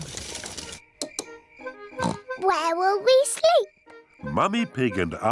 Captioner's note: oinks